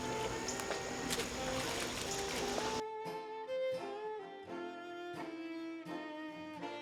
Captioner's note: water splashes; insects hum